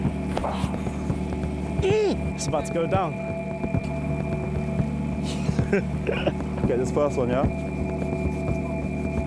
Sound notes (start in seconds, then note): 1.8 grunts; 5.2 laughs